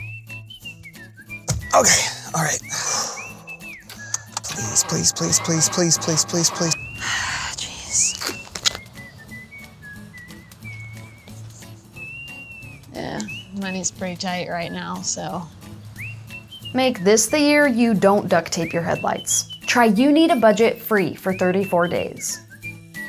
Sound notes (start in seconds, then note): 1.5 upbeat music; 2.6 sigh; 7.0 sigh; 10.6 upbeat music